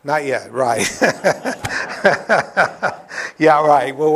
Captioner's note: laughter